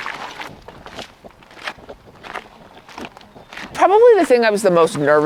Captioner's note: footsteps rustling